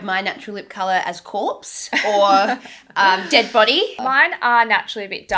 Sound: laughs

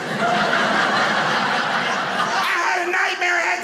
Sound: audience laughing

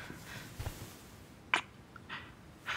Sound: kiss

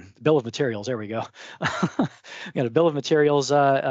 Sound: laughs

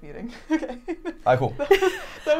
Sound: laughing

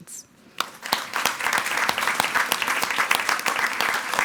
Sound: everyone applauding

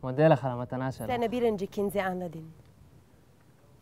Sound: Turkish

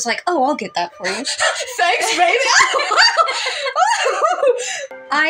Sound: panting; flustered Noises; laugh

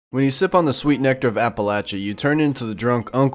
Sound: burp

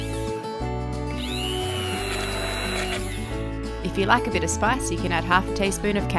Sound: blender whirs

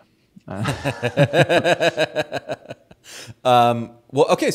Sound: laughs

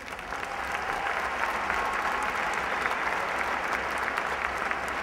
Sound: applause

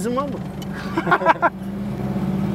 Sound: laughings

